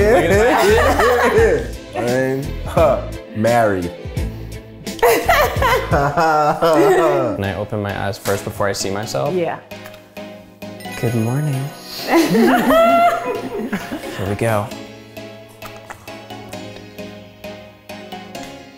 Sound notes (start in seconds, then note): 4.9 laughs; 12.1 laughs